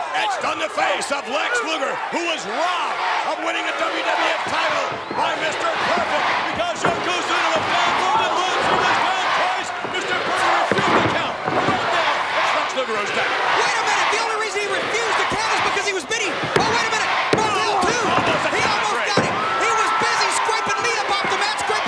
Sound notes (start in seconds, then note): 6.6 crowd cheering drowns out Vince; 10.7 Vince vocalizing; 17.1 hand pounding